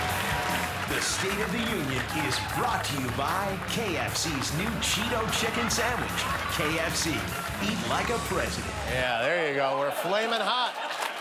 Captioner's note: applause